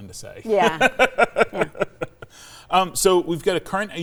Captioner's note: laughing